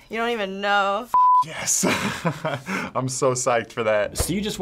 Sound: chuckles

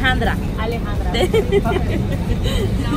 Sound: laughs

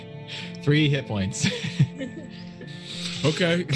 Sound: laughs

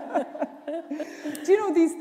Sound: laughter

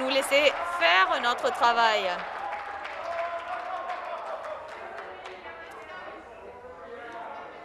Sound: some Applause

